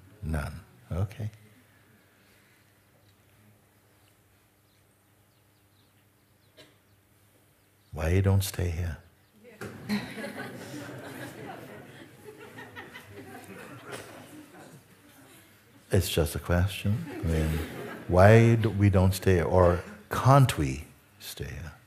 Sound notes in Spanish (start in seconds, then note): 9.7 risas